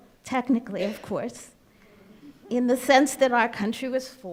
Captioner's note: crowd chuckles